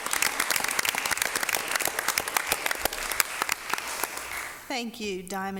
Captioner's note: applause